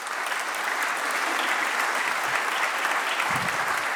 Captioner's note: applause